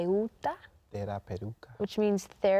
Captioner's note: speaking in Spanish